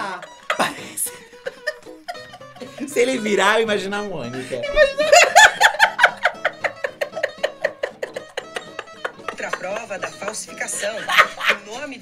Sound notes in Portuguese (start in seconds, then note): 0.0 risos; 4.3 risos; 4.4 rindo